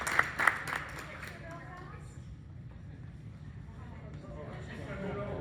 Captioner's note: background talking